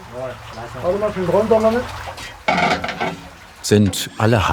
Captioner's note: soft voices, metallic sounds